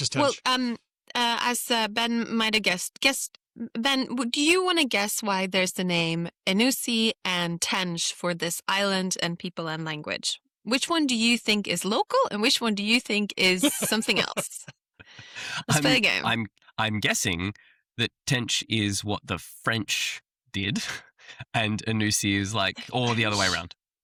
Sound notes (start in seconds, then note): 13.6 laughs